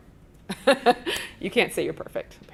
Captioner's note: chuckles